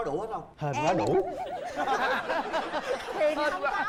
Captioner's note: laugh